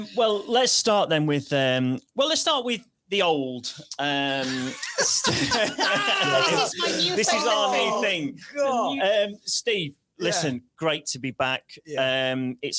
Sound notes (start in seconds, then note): 4.4 laughs